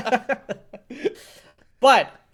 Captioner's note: laughing